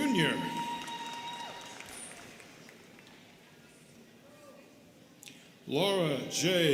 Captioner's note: students cheering and clapping